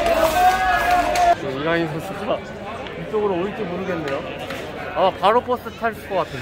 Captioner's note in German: Beifall